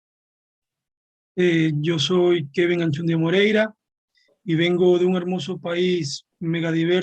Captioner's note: speaking Spanish